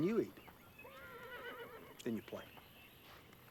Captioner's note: horse whinnies